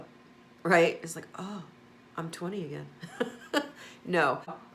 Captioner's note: laughs